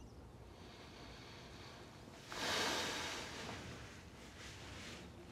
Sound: Tyler breathes deeply

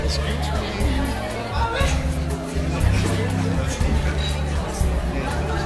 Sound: people chattering

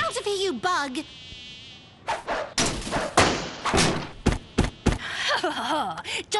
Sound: crash; thump; laughs

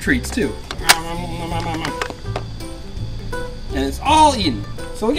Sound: munching

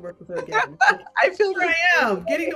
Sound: chuckles

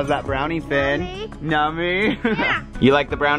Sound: laughs

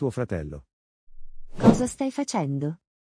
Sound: FX - Whoosh - 03

